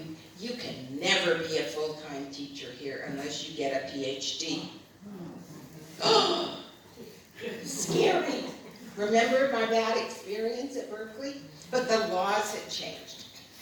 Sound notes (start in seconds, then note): 5.0 audience groans; 7.3 gasps